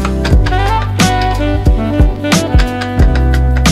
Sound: handle clanking

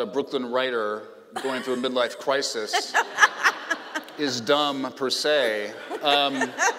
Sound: laughing

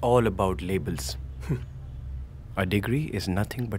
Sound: scoffs

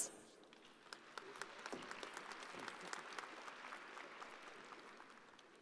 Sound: audience applauding

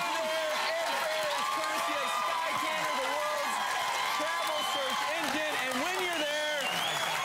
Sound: crowd cheering; applause

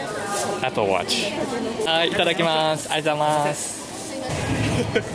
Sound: speaking japanese

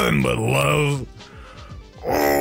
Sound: breathes

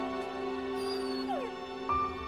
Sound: fox whines

